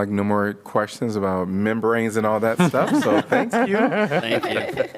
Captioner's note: laughter